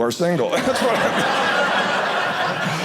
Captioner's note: audience laughing